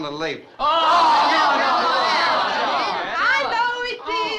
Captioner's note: crowd groaning